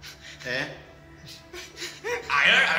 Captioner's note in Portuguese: risos